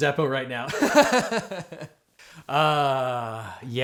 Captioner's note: host laughs